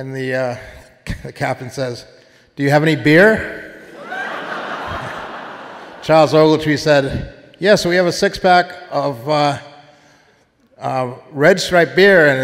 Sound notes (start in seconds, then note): 3.8 audience laughing